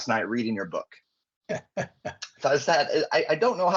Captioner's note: laughing